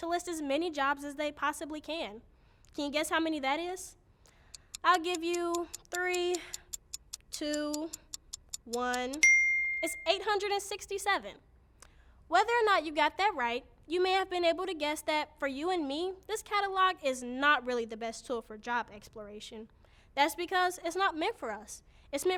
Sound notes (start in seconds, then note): 8.1 clock ticking; 9.2 bell ringing